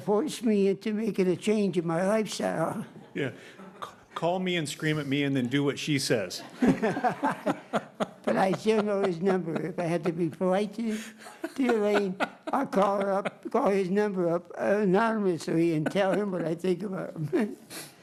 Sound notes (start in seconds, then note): 15.6 laughter